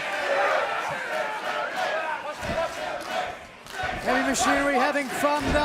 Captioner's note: fans chanting